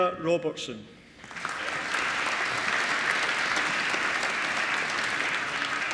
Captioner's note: applause